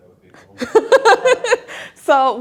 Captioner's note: laughter